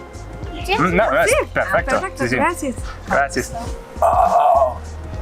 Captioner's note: speaks in foreign language